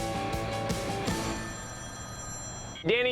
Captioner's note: phone ringing